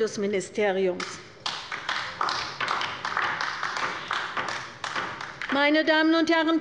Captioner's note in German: Beifall bei der LINKEN